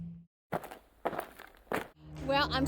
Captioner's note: crunching gravel